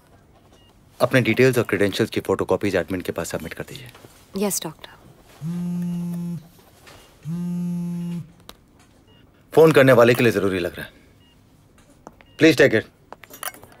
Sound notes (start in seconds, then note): 5.1 Phone vibrating